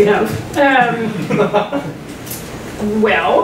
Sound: laughter

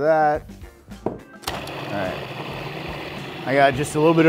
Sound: food processor whirring

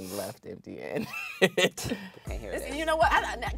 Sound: laughing

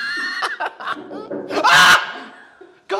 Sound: knocking on the door

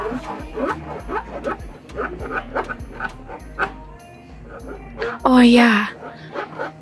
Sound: pleasant wood scratching noises

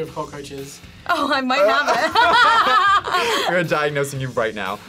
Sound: both laugh

